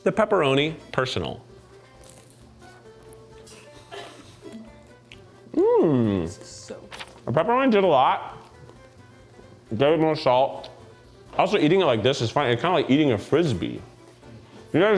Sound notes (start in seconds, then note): 1.8 bright music; 3.4 crew member chuckles